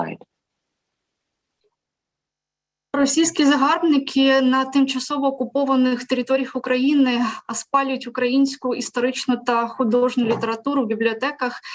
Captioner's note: foreign Language